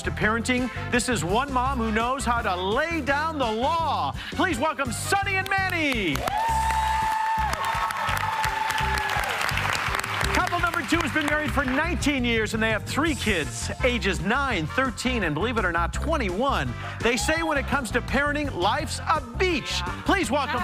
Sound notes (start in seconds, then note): 9.0 cheers and applause